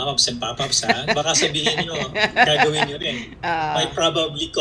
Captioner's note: laughter